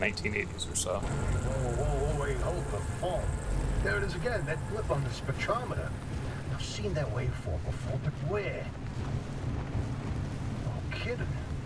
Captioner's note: radioactive Ambience and Car Engine Sounds